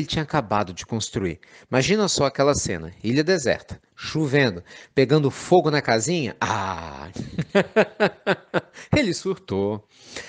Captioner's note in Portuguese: Risos